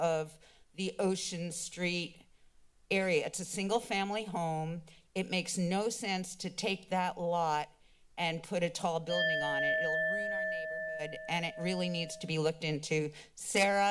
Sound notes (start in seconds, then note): 9.1 alarm sound